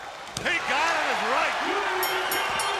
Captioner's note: bell rings